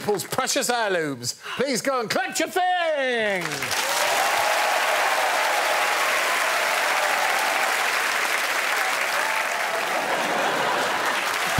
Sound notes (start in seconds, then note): 5.4 cheers and applause